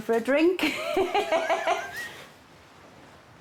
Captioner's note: chuckling